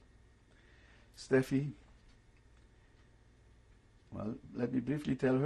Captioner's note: pauses for 3 seconds